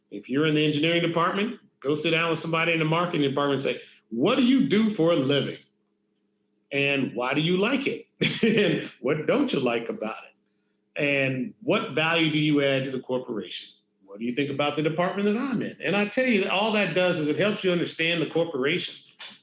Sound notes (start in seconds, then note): 8.2 laughs